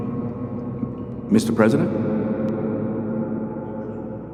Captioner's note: echoing